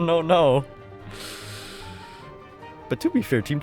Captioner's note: inhales